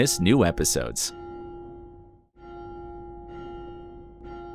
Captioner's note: bell tolling